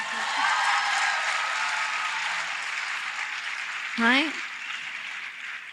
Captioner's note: applause